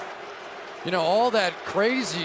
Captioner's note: booing